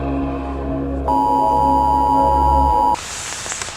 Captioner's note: emergency Alert System Sound